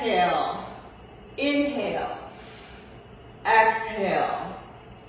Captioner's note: inhales